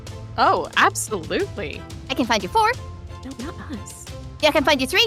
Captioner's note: whispers